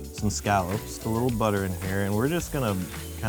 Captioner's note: pan sizzles